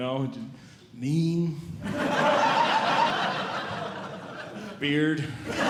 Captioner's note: audience Laughing